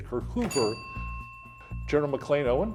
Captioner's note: bell ringing